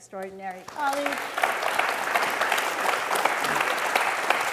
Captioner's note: audience clapping